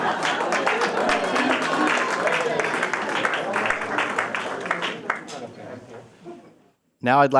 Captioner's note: applause